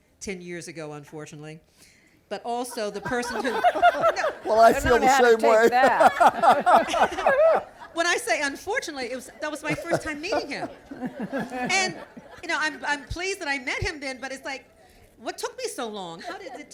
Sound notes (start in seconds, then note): 3.9 laughter; 5.4 laughs